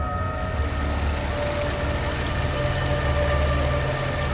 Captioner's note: water rushing